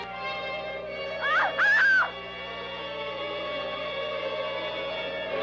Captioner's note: screaming